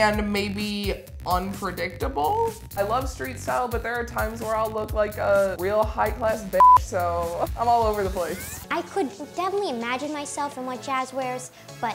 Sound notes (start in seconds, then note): 6.6 beep